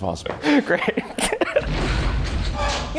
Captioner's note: laughing